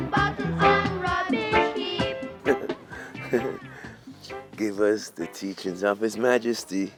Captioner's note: laughs